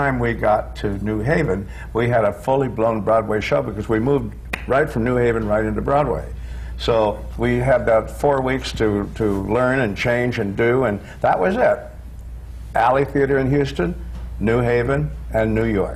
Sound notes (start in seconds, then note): none